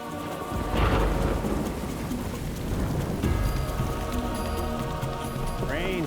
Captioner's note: dramatic music; thunder rumbling